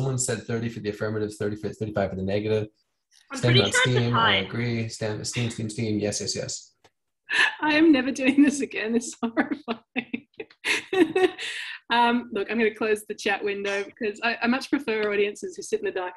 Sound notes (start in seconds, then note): 9.3 chuckles